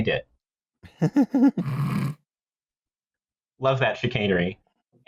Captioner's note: laughter